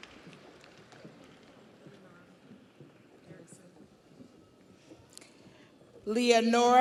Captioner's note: audience applauds